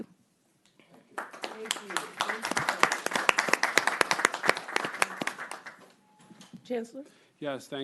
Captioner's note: applause